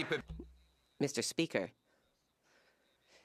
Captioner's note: cheers & Applause; speaking French